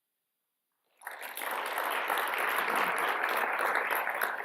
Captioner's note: applause